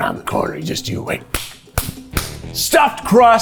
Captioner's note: smacks hands